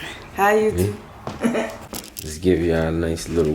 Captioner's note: laughs